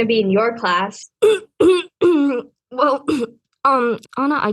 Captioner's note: clears throat aggressively